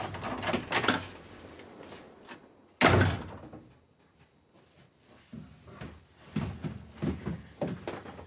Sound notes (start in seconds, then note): 0.0 door opens; 2.8 door closes; 5.2 footsteps coming downstairs